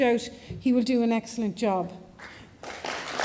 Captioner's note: applause